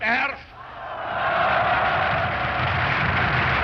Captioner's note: loud cheering